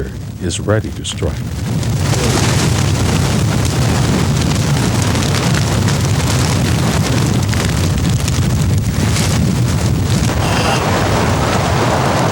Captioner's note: fire roaring, limbs cracking; fire roars